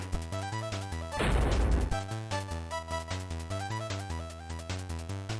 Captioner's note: thud